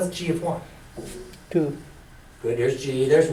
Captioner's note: voiceover